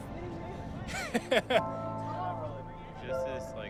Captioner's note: laughing